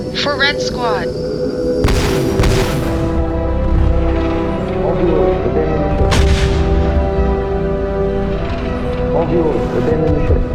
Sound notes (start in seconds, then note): 1.8 violent explosion